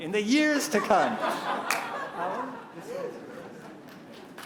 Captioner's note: laughter